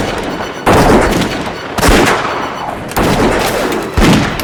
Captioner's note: gunfire